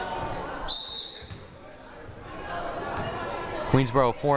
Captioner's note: whistle blaring